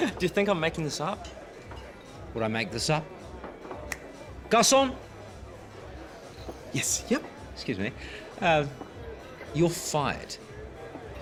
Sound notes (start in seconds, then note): 3.8 clicks fingers